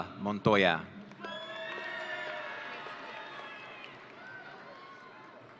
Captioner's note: audience cheering